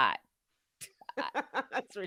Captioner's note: chuckling